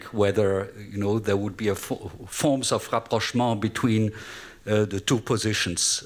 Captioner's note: french